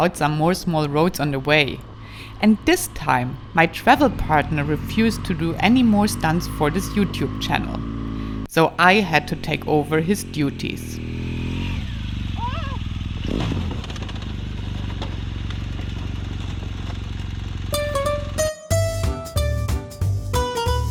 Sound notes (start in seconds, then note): 13.6 motorcycle roars; 17.7 bouncy music